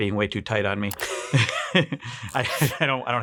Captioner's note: chuckling